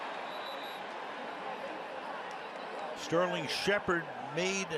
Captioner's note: whistle